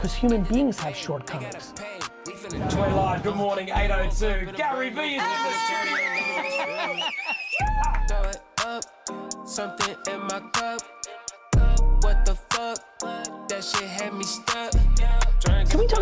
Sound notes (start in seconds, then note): 6.6 group cheering